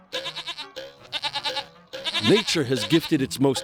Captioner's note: bleating